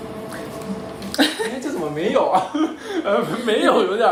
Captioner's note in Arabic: يضحك